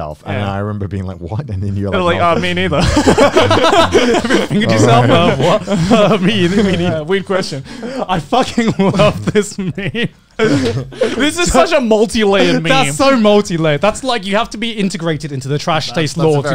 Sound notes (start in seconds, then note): 3.3 laughing